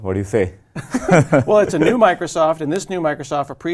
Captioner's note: laugh